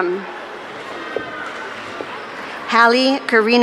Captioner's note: audience cheering